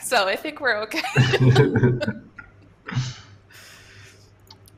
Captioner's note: laughter